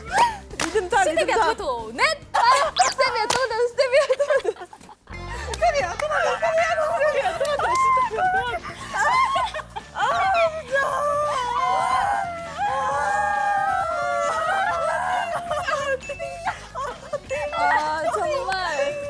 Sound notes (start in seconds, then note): 10.3 cries heard at the construction zone; 15.4 tears; 17.0 tears; 18.4 tears